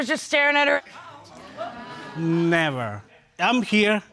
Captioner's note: audience clamoring